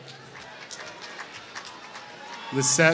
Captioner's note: applause